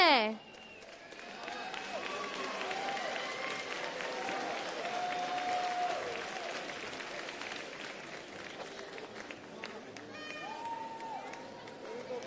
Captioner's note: applause